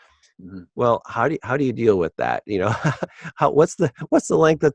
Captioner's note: laughs